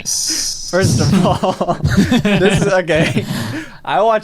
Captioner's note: both chuckling